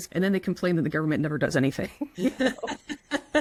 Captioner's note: both laugh